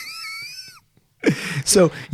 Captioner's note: laughing